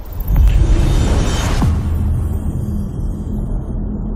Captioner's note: dramatic sound